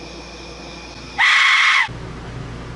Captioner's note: screams demonically